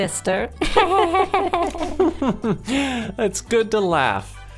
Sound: all laugh

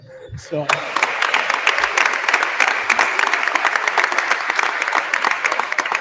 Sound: attendees applauding

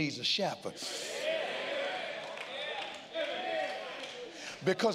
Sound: congregants call out and applaud

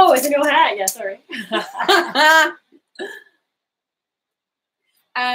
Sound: both laughing

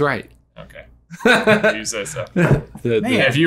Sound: laughing

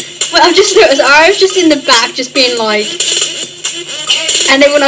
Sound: punching

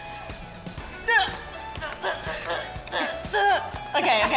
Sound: grunting

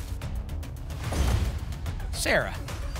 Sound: thump; whoosh

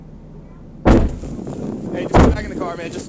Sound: door slams

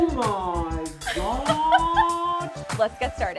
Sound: laughing

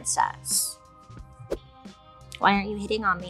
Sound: hair whipping

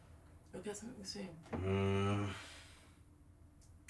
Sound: groans

